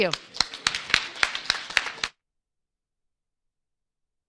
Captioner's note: clapping